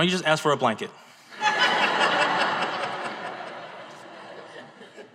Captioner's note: audience laughs